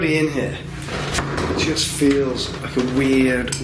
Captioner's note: floor creaking